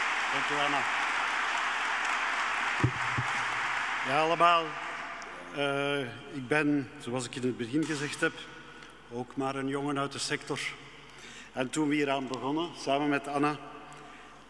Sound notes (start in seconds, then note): 3.8 speaking in Dutch